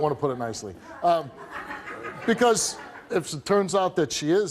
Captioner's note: audience laughing